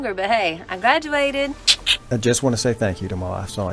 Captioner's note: clicks tongue